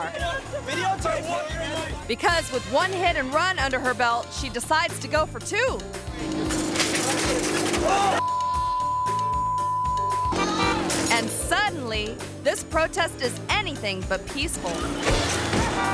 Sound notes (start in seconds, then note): 6.2 engine roaring; 6.2 bicycle clattering; 8.2 beep